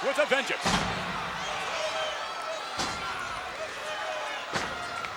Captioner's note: crowd yelling